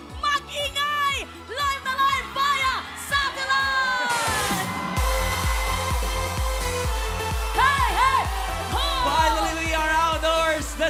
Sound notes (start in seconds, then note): 5.0 cheering; 5.0 upbeat music playing